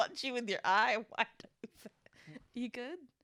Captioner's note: laughs